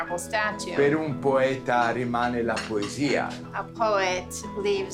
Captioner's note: Dario speaking Italian